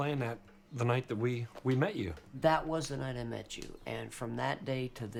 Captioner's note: none